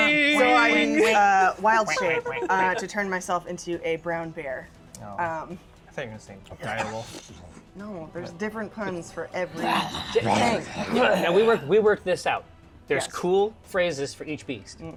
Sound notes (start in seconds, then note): 9.5 growls